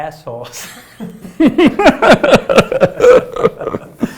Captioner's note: laughter